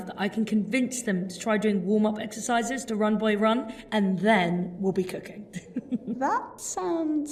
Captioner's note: laughs